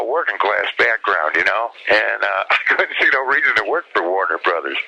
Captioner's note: laughs